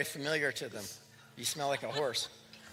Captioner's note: laughter